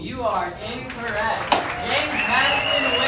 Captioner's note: applause